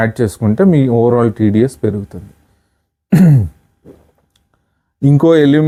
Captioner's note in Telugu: గొంతు సవరించుకోవడం